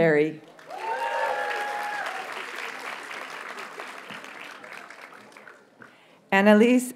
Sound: audience cheers and applauds

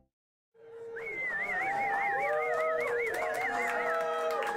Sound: cheers, whistles, and applause

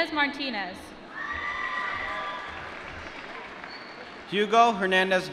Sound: applause

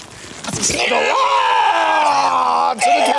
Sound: both yell

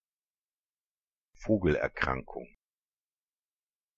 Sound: fast Pronunciation

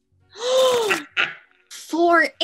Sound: gasp!

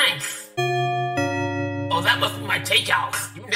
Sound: ding dong of a doorbell

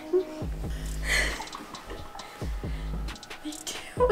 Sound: laughing; whispering

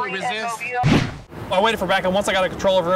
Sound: whoosh

